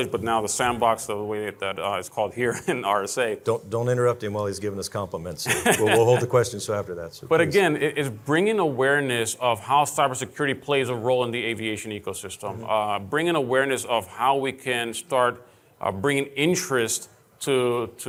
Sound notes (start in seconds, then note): 5.4 laughing